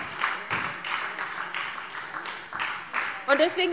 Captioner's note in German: Beifall SPD